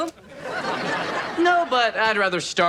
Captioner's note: audience laughs